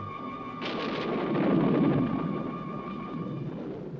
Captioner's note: thunder crashing